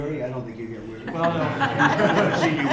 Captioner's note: laughter